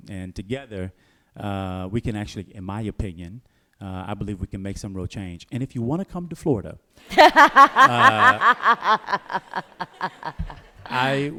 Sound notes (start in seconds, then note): 9.7 laughter